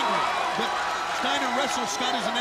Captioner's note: crowd cheering